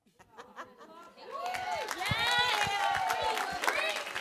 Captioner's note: cheering